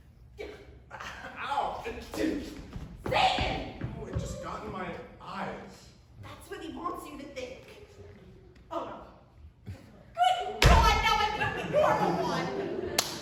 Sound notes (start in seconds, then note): 0.4 sneezes